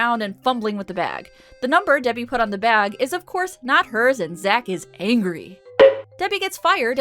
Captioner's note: BONK sound effect